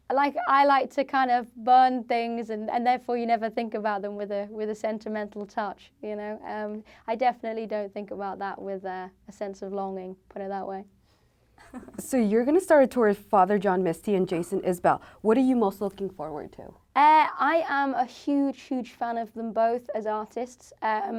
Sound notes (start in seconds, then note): 11.6 chuckles